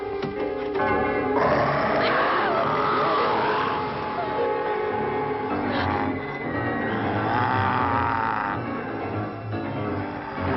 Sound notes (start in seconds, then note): 1.4 Priscilla screams; 1.7 werewolf growling; 7.3 ominous music